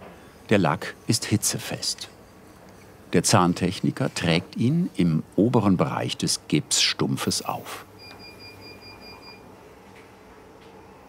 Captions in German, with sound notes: Der Lack ist hitzefest. Der Zahntechniker trägt ihn im oberen Bereich des Gipsstumpfes auf. (Piepen)